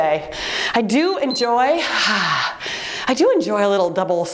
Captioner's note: timer beeps; sighs